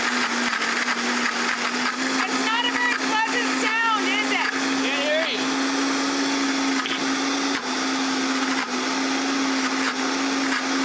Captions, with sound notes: It's not a very pleasant sound, is it? Can't hear you! [blender continues whirring]